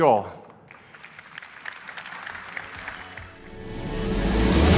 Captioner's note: audience applauds; upbeat music